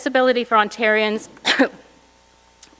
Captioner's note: cough